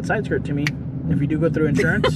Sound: fingers snapping

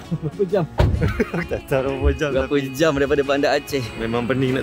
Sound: laugh

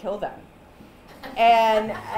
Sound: laughter

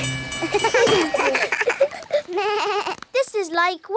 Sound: all laugh

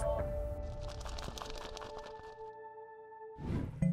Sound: sound of wings flapping

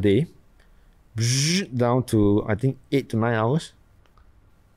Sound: buzzes

